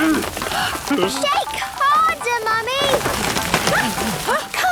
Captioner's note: all groaning; exclamations